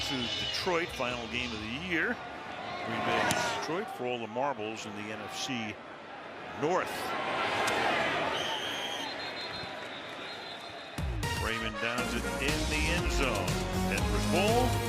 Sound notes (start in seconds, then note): 8.3 whistle